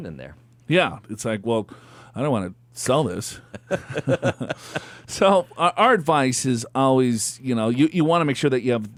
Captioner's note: laughs